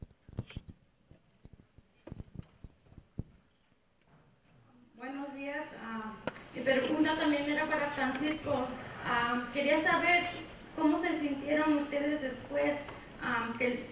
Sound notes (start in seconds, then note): 5.2 woman speaks in foreign language